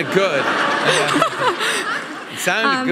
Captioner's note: audience laughing